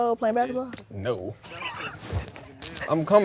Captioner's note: laughs